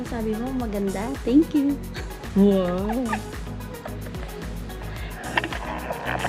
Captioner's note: laughing